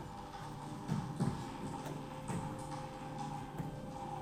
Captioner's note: footsteps tapping